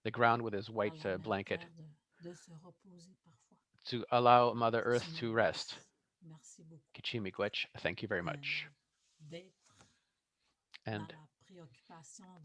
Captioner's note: foreign language